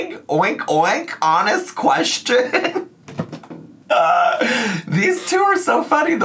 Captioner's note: laughs